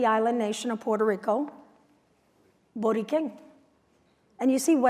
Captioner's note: non-english speech